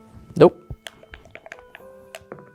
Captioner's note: dice rattling; dice rolling